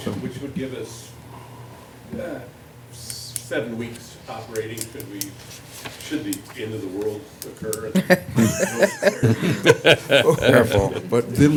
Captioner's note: laughter